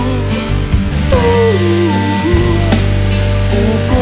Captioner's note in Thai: กำลังร้องไห้